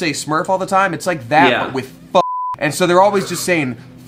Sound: beep

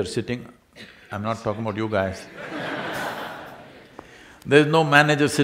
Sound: laughter

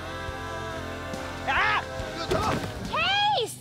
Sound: screaming

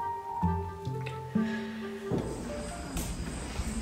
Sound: deep breathing

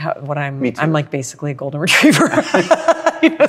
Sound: laughs

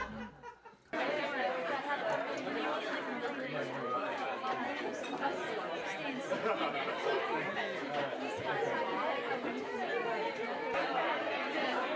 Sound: indistinct chatter

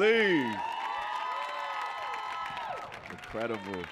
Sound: audience cheering and applauding

